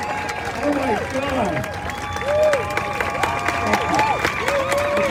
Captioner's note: crowd cheers